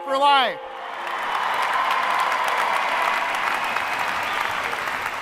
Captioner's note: applause and cheering